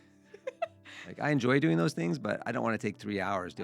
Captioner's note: laughing